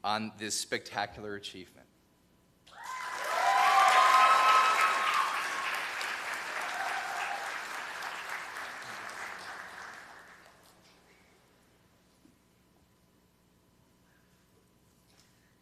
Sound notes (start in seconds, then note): 5.1 cheers and applause